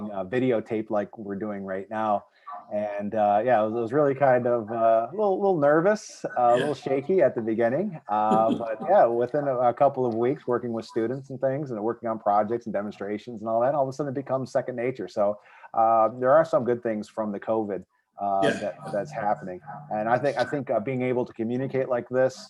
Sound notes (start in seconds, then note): 6.2 laughs; 8.0 laughing